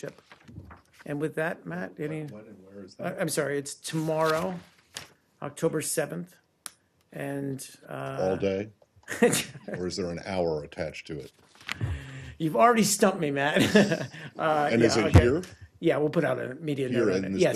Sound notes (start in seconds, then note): 13.5 laughter